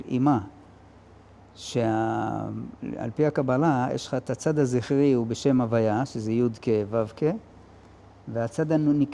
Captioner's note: in Hebrew